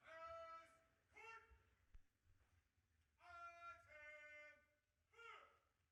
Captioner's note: officer calling out commands